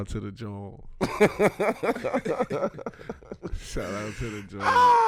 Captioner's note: laughing